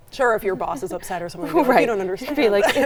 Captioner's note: laughs